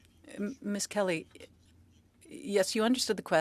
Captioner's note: speaking French